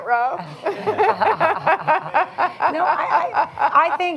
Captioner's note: laughter